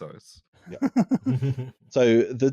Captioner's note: laughing giggle-ly